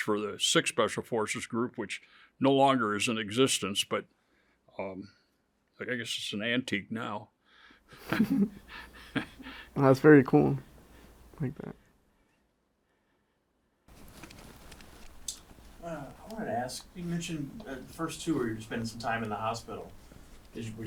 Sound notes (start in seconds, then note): 8.0 interviewer chuckles; 8.0 laughs